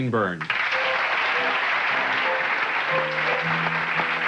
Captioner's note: audience clapping